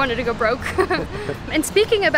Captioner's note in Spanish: risas